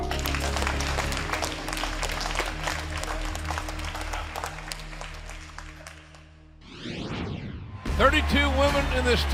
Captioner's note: applause